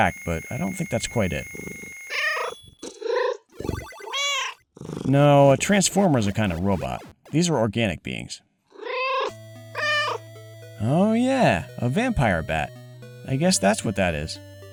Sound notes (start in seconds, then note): 4.1 meow